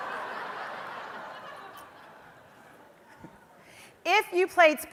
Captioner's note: audience laughs